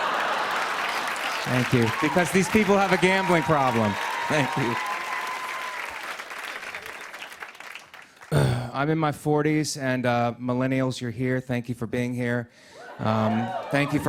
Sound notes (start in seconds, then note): 0.0 laughter; 4.7 applause; 8.3 sighs